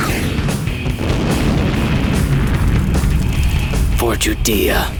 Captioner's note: rock music; missiles whooshing; fire exploding